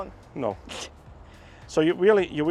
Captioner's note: laughs